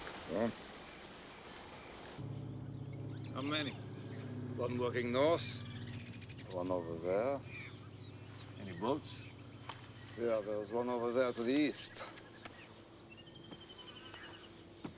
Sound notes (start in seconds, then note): 2.2 plane engine